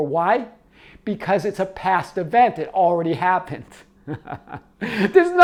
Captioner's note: laughs